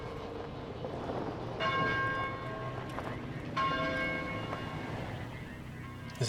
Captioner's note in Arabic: رنين جرس الكنيسة